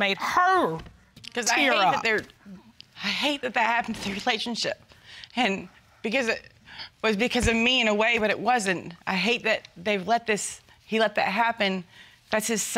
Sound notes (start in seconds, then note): 3.5 tearfully